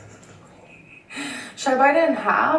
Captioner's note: laughs